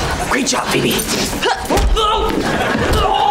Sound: grunting

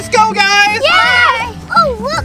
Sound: cheering

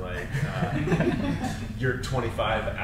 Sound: panel laughs

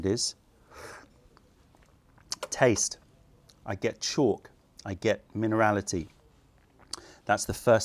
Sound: sips tea

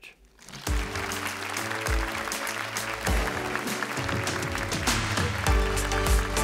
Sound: applause

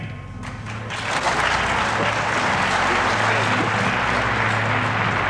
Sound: audience applauding

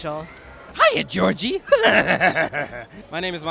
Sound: laughing

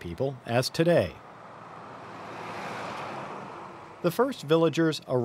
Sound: traffic noises

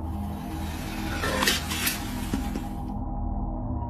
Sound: growling

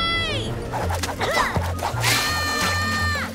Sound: yelling

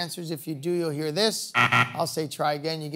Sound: buzzer sounds

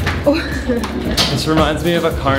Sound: laughs

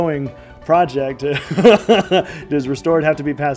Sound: laughing

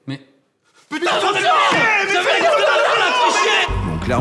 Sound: yells insults

